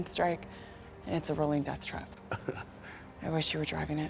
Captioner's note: laughs